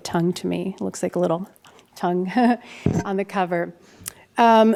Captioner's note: chuckles